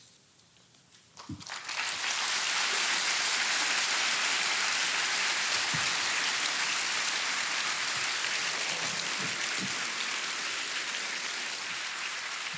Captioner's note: applause